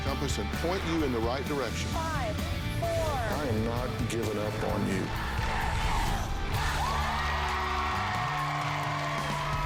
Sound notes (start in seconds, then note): 4.9 crowd chanting "dr. phil!"; 7.3 cheers and applause